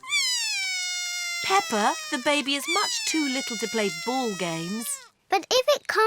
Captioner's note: bawls